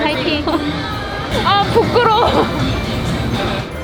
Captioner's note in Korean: 웃음